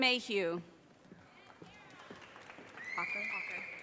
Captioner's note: audience cheers and applause